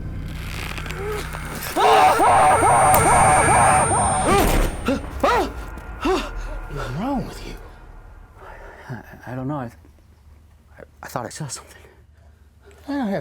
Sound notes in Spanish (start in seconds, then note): 0.6 huesos crujiendo; 1.7 Jonathan grita; 4.6 Jonathan jadea